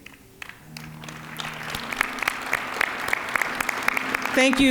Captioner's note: applause